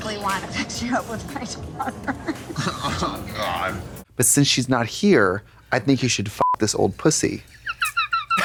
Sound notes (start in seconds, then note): 6.4 beep